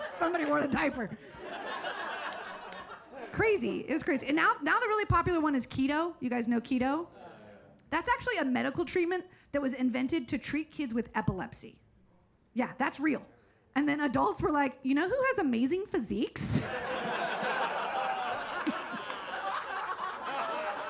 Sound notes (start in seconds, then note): 0.0 laughing; 0.0 audience laughing; 16.6 audience laughing